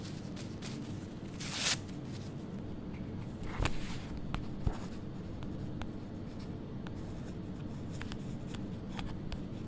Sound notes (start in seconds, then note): 4.5 pen scribbling